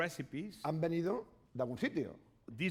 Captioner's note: speaking spanish